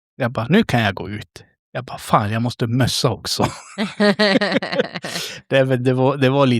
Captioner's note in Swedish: skratt